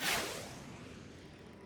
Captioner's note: whoosh!